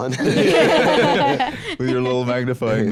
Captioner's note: all laughing